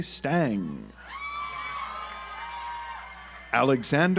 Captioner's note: audience applauds